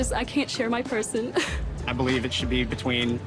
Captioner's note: chuckles